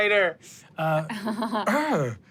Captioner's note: chuckles